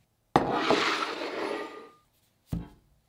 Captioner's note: bowl sliding